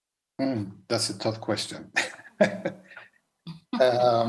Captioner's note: chuckles